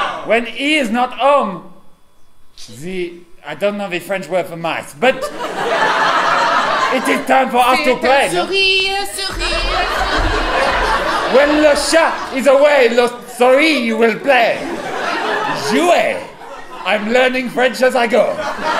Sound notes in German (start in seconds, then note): 10.2 auf Französisch; 15.9 Französisch